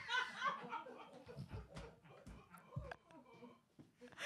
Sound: producers laughing

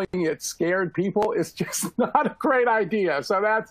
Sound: laughter

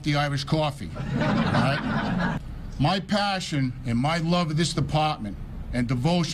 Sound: laughs

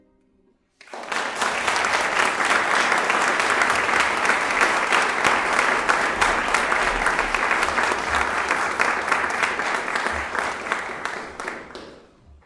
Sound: applause

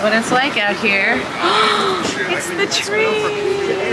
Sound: person gasps

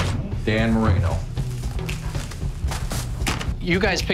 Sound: box thudding

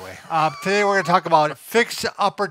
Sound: laughing

